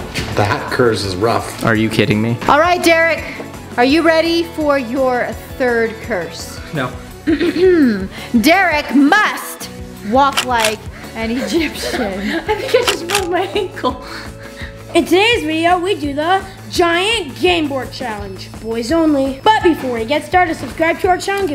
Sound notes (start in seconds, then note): 7.8 clears throat; 11.2 panting and laughing